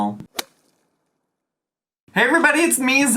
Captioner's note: logo thuds